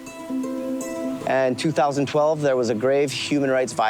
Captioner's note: speaking In Foreign Language